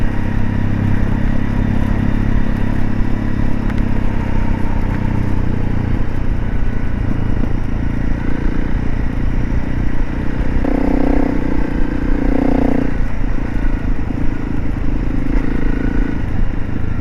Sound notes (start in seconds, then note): 1.5 engine sounds